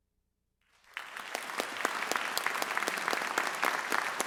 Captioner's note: audience applauds